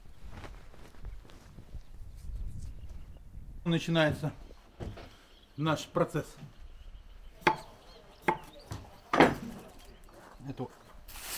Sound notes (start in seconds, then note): 3.7 man speaking foreign language; 8.5 knife thumping